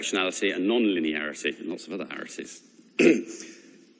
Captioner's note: cough